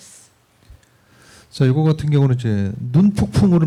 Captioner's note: speaking korean